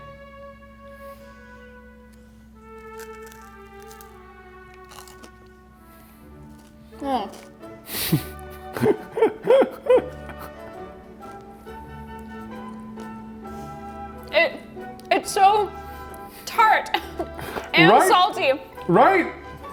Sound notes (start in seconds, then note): 0.2 Takis crunching; 0.2 gentle classical music; 7.9 chuckles; 11.2 gentle classical music continues